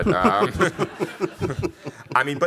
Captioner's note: laughing